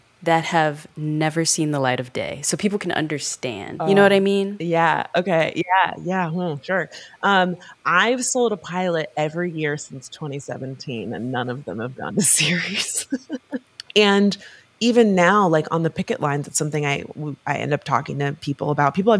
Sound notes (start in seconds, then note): 12.4 chuckles